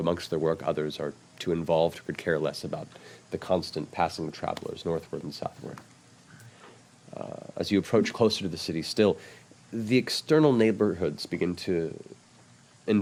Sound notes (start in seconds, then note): none